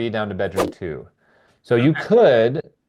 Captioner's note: image whooshing